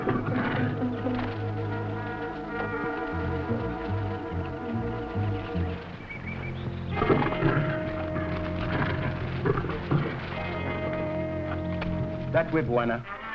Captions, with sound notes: (tense music) (plants rustling) (jaguar growling) (tense music) - That way, Bwana.